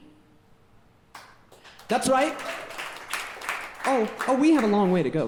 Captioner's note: audience clapping